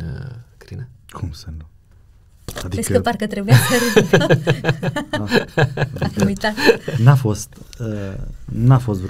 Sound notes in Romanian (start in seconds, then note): 3.5 Râsete